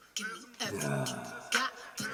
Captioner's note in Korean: 감탄